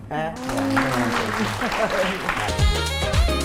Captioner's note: applause